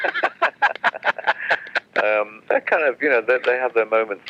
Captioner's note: laughs